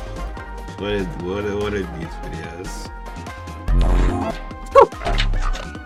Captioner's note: giggling